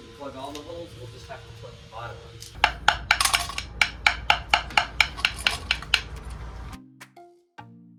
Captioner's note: knocking on keel to hear voids